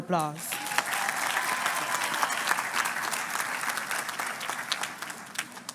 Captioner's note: crowd cheers and claps